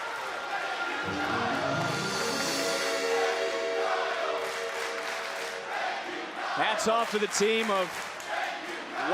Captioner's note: crowd chants